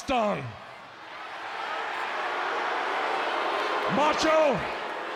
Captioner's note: audience cheering